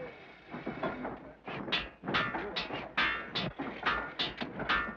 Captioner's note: hammers bang